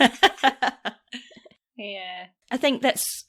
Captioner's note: laughs